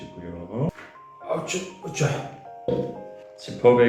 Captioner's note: grandfather sounds